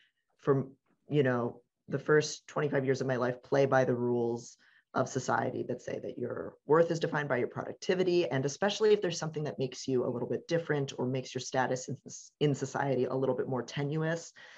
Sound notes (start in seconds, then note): none